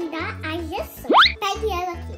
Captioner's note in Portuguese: apito deslizante